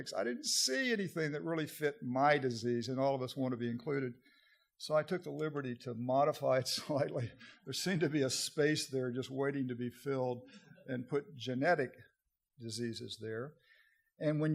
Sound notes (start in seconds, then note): 6.8 audience laughter